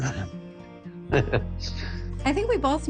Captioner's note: laughs